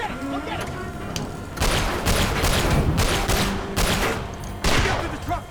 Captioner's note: gunshot